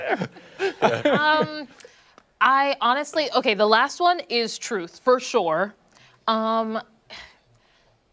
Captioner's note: laughter